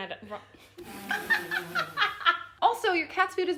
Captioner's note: both laughing